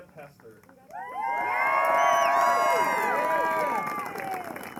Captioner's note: applause